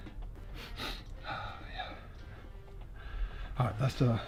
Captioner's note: sniffing; laughing